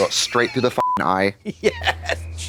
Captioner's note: beep